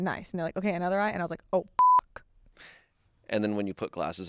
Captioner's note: beep